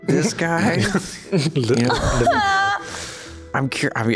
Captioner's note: awkardly laughs